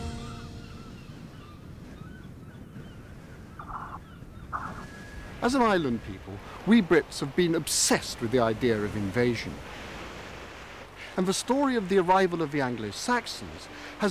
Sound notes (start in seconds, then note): 0.1 seagulls chirping; 2.4 waves crashing